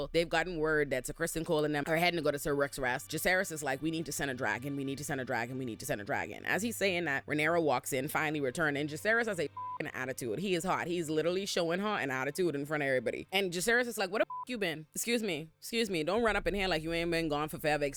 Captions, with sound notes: they've gotten word that to Kristen Cole and them are heading to go to Ser Rook's rest. Jisaris is like, we need to send a dragon, we need to send a dragon, we need to send a dragon. As he's saying that, Rhaenyra walks in, finally returning. Jisaris has a (beep) attitude, he is hot, he's literally showing heart and attitude in front of everybody. And Jisaris is like, what the (beep) you been? Excuse me, excuse me, don't run up in here, like you ain't been gone for forever,